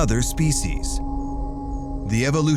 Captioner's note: crickets chirping